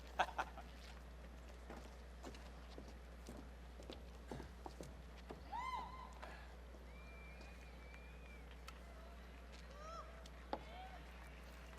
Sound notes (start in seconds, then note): 6.9 audience cheering